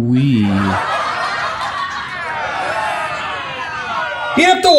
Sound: crowd laughing

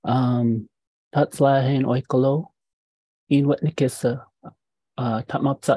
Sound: speaking indigenous language

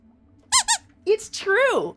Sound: squeaks squeaking

